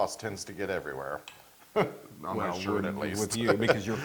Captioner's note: laugh